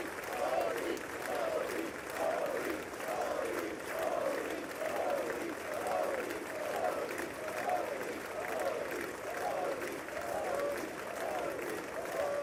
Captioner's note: applause